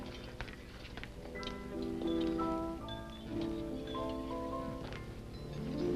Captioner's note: soft orchestral music; people chattering faintly